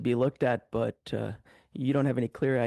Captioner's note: speaking French